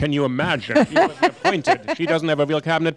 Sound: laughter

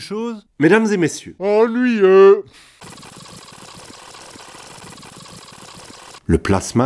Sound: ffw

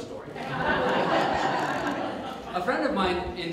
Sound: audience Laughs

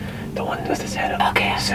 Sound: whispering

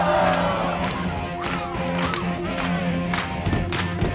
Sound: clapping

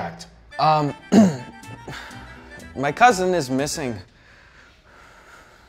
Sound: clears throat

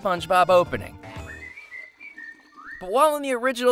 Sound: whistling

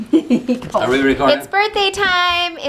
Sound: laughing

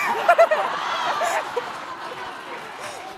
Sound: laughing

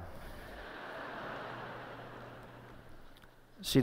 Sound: laughter

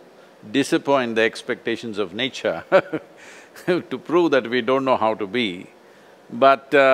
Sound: laughs

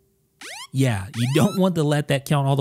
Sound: iPhone beeping

